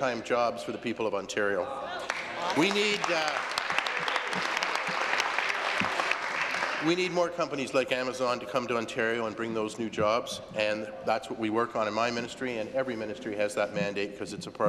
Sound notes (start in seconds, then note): 5.2 applause